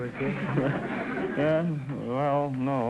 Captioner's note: audience laughter